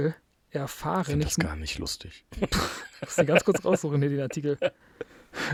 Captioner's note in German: gelächter